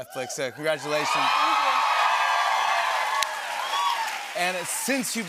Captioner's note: cheering and applause